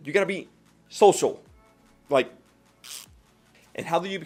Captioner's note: deflating sound